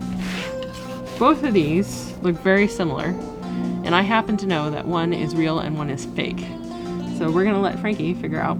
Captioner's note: pardon the airplane in the background